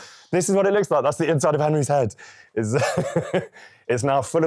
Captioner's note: laughing